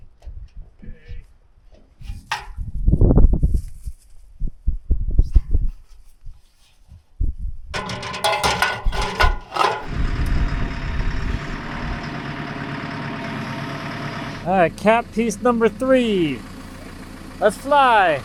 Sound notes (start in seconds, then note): 7.7 ladder clanging; 10.5 engine running